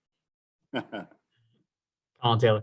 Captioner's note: laughs